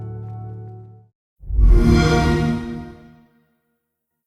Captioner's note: xbox sound